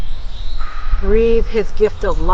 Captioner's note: Sanjona blowing